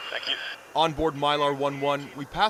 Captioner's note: voice-over